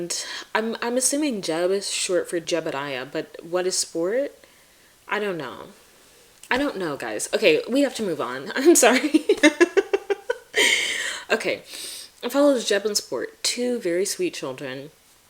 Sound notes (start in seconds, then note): 8.8 laughing